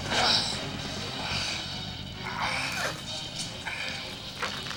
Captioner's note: Talon groaning